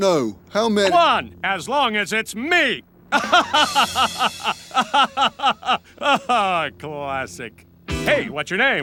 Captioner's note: laughs